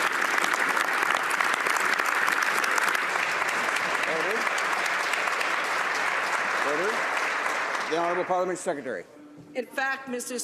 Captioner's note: some Applause